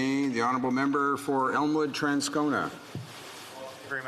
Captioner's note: speaking French